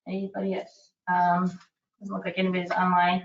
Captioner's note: none